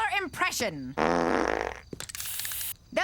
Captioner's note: breaking wind